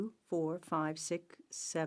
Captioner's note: speaking french